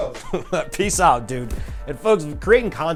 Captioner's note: laughs